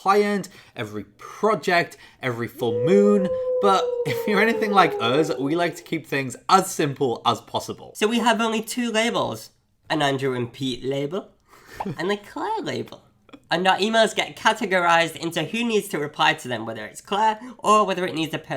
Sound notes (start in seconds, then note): 2.5 howling wolf